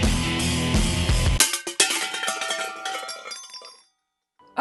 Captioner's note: tins crashing